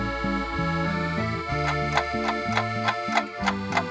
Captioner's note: clock starts ticking